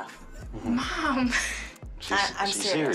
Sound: laughs

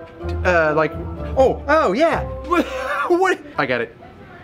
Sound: laughs

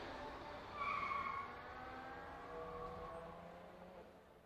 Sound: tires squealing

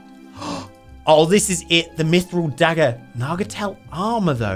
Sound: water trickling; gasps

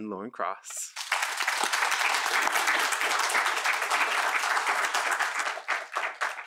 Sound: applause

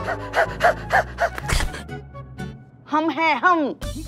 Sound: laughing

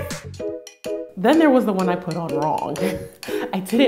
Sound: laughs

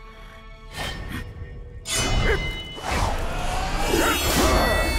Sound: grunting

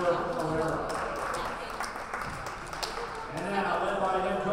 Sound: players applauding

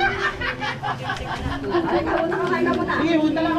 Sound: laughs

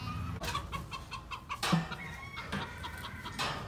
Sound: chickens clucking; metal clanging

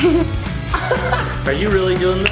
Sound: laughs

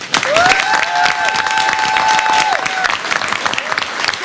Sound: applause

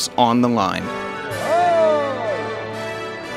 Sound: natural Sound cheering

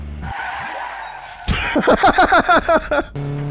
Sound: laughs

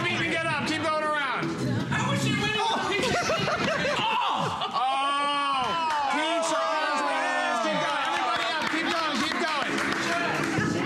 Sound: laughter

